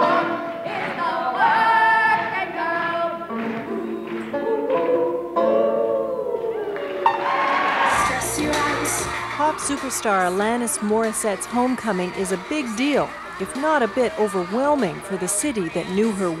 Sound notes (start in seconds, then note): 8.0 cheers